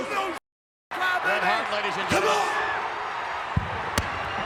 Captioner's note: overlapping chatter